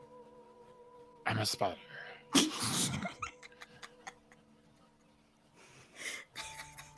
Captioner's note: people laughing